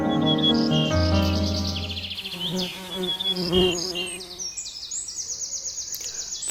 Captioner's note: bird chirp